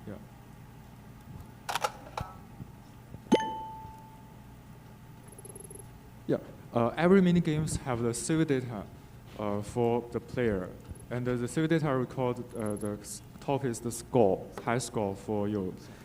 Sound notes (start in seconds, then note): 1.6 game beeping; 5.2 text beeping